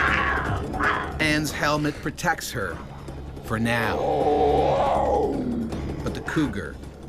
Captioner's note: voiceover